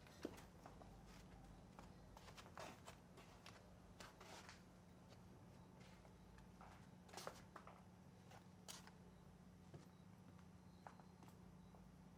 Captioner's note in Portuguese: chinelos arrastando